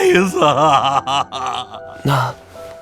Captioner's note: wailing